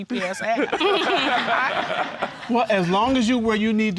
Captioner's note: all laughing